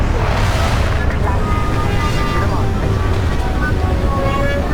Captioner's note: rumbling